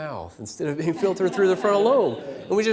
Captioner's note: laughter